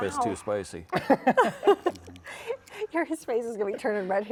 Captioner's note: laughs